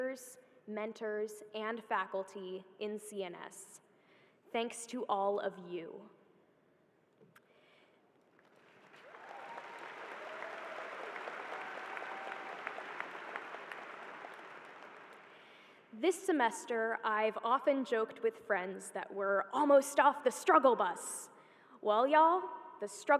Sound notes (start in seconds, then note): 11.4 applause